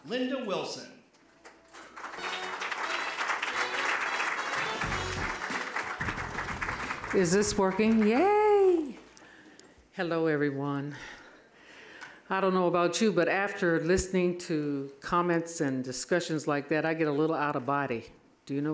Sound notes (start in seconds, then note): 1.4 applause; 2.1 upbeat jazz music